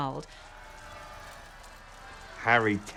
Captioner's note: crowd cheering in a distant